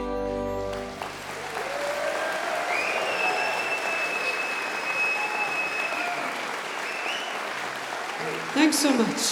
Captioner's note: applause